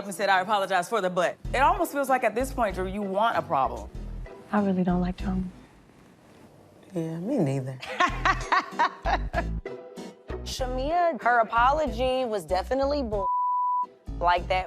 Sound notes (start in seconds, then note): 7.8 laughing